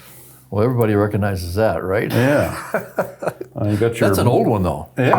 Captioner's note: laughs